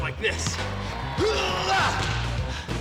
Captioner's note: grunts